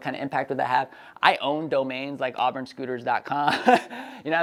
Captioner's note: laughs